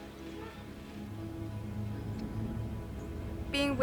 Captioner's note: dramatic music continues; birds chirping